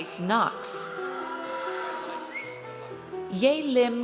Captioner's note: audience cheers